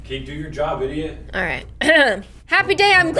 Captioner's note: clears throat